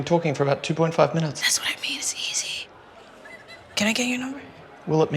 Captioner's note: whispers